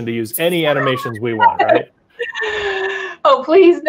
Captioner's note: laughing